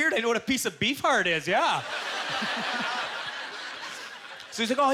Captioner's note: audience laughter